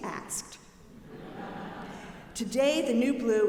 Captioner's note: audience laughing